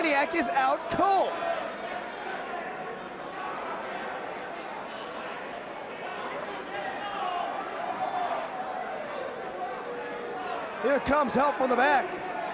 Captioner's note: crowd chatter